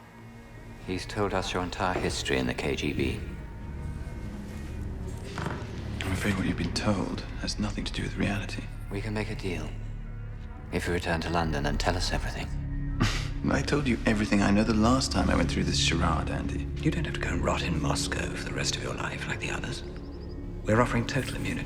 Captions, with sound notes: He's told us your entire history in the KGB. - I'm afraid what you've been told has nothing to do with reality. - We can make a deal. If you return to London and tell us everything. (chuckling) - I told you everything I know the last time I went through this charade, Andy. - You don't have to go and rot in Moscow for the rest of your life like the others. We're offering total immunity.